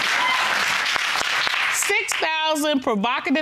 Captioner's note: audience applauds